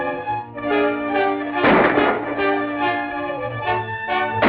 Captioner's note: gunshots